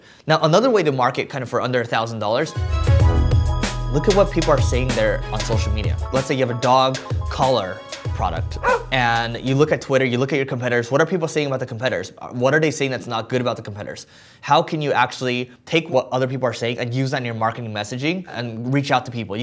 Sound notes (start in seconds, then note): 2.6 light music; 8.6 dog barks